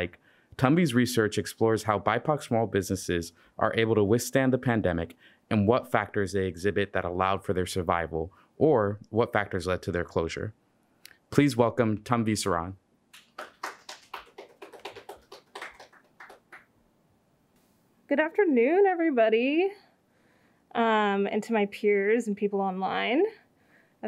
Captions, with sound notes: Tanvi's research explores how BIPOC small businesses are able to withstand the pandemic and what factors they exhibit that allowed for their survival or what factors led to their closure. Please welcome Tanvi Saran. (audience clapping) - Good afternoon, everybody, and to my peers and people online.